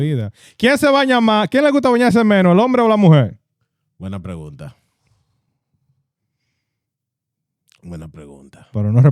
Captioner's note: speaking In Foreign Language